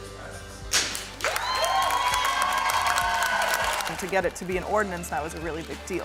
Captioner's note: applause